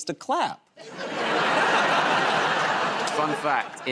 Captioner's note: laughter